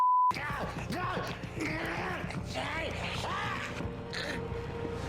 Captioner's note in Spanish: persona de traje gime